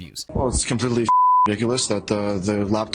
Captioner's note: beep